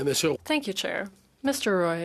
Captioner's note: speaking French